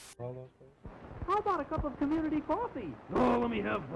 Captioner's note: TV static